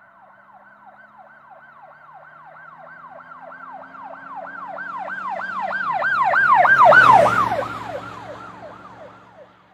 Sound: police Siren

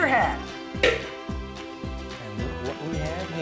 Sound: loud tap

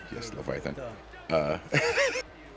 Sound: laugh

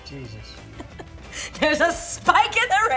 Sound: laughing

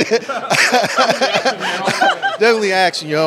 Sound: laughter

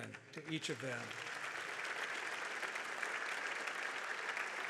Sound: audience applauds

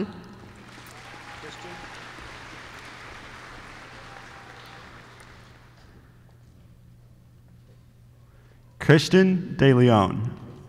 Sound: applause

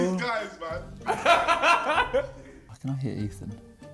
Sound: laughs

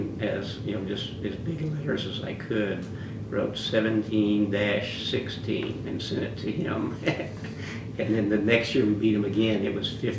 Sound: laughs

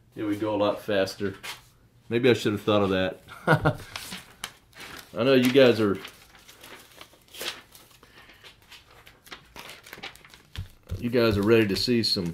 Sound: ha,ha

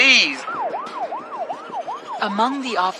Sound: siren wailing

